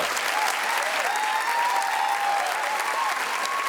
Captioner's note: audience clap